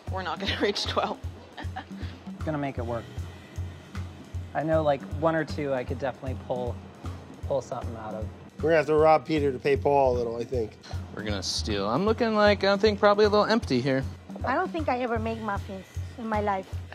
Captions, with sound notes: - We're not gonna reach 12. [laughs] - I'm gonna make it work. I know, like, one or two, I could definitely pull something out of. - We're gonna have to rob Peter to pay Paul a little, I think. - We're gonna steal. I'm looking like, I think, probably a little empty, here. - I don't think I ever made muffins in my life.